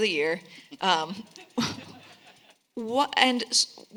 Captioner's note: all laughing